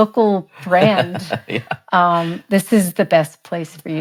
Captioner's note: chuckles